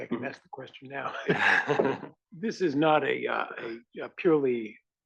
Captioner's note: laugh